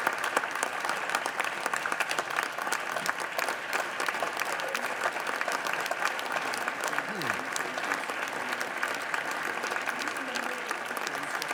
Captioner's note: applause